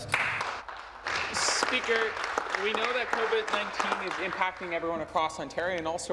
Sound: some Applause

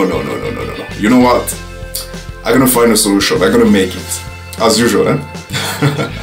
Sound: chuckles

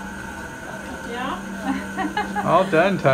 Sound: laughing

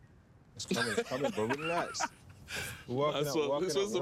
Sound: laughing

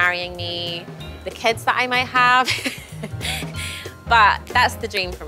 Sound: laughs

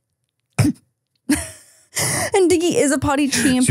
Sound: chuckles

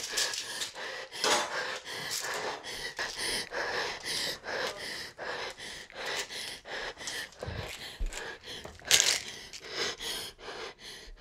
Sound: heavy Breathing

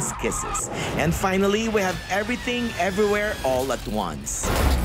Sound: sound effects

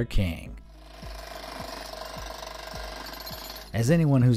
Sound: jackhammer whirring

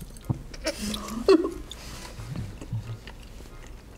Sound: chuckles

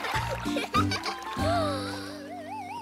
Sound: jade gasping

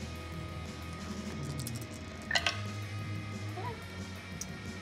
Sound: dice click

